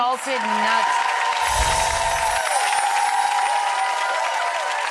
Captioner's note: audience cheering